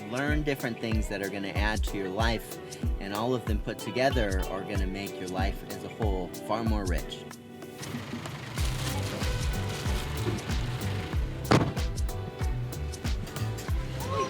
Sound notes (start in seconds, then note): 7.8 car engine revving; 8.5 nylon paper rustling; 11.4 car door thuds; 12.4 upbeat music